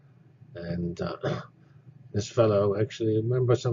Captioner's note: cough